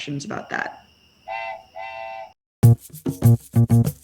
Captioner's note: train whistle